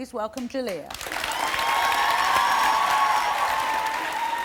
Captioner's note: audience cheering